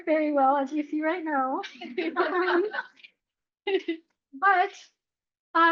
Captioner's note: laughter